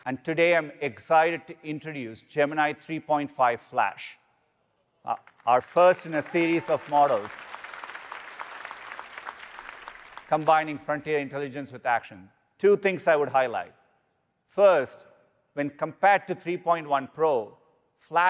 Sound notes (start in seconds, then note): 7.7 audience applauding